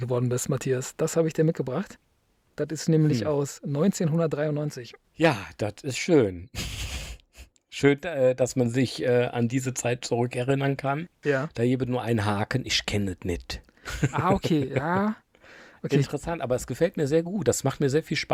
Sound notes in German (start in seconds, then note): 8.1 schnauben